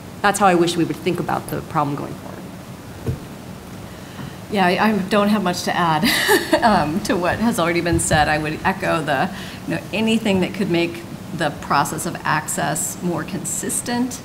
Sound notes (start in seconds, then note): 6.0 laughs